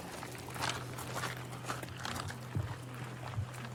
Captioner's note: footsteps crunching